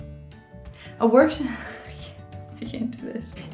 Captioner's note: chuckling